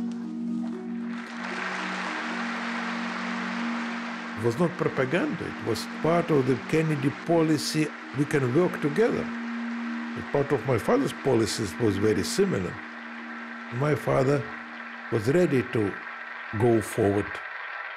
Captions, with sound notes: [APPLAUSE] It was not propaganda. It was part of the Kennedy policy we can work together. Part of my father’s policies was very similar. My father was ready to go forward.